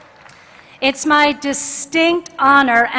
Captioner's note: cheers and applause